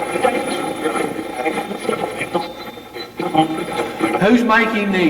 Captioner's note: Steve's Box chatters